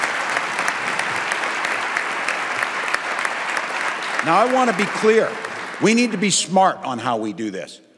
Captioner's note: applause